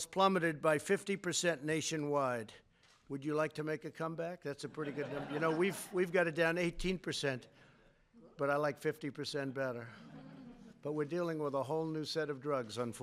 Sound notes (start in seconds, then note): 4.6 laughter